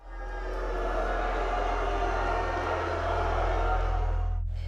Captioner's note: audience shouting